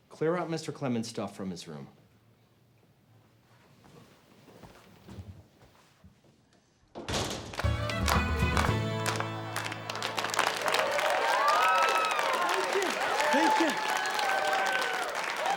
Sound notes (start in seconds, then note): 7.6 lively dance music; 10.3 students cheer